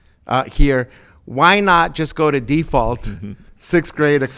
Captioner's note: laughing